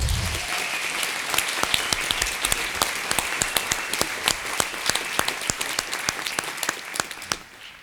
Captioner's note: applause